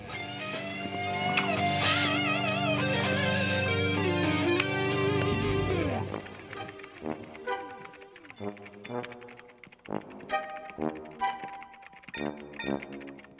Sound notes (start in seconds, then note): 0.0 rock music; 6.2 computer keys clacking; 6.2 whimsical music